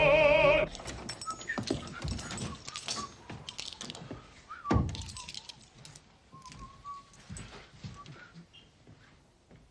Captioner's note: whistles